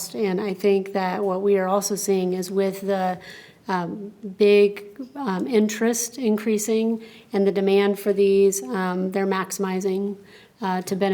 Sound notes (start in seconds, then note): none